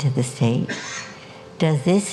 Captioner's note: audience member coughs